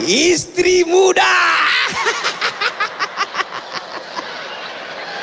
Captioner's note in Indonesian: tertawa